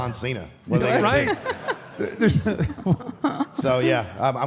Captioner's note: Michelle laughs